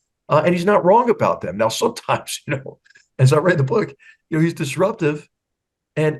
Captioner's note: laugh